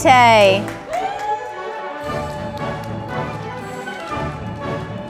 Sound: audience applauding

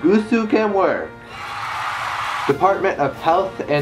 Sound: applause

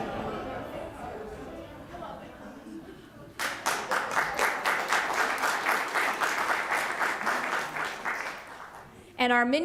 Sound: applause

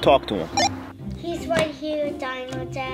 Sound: walkie talkie beeps

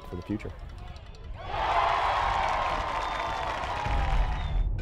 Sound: crowd cheering

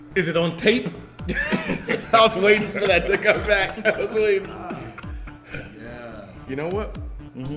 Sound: laugh

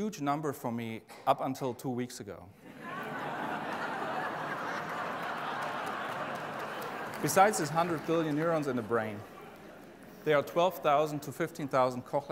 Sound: laughing

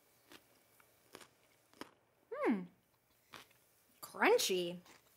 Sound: crunching

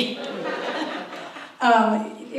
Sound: audience laughs

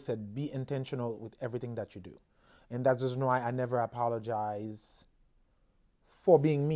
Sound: none

